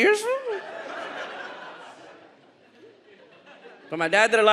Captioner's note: audience laughs